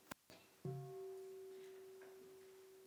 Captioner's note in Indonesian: Mengundang bunyi genta